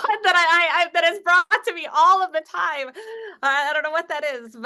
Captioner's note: laughs